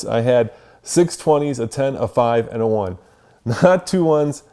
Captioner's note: none